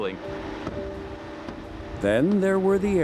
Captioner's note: pounding